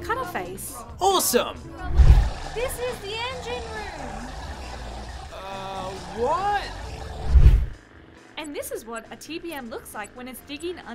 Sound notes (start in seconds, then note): 1.9 loud machinery noise